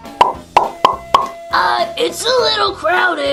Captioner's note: popping